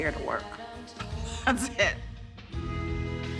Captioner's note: laughs